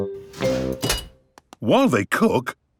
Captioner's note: beeps